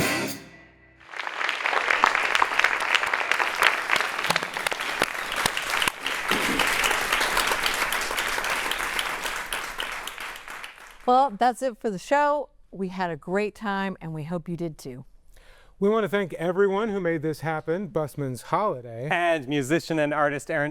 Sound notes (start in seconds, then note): 4.1 applause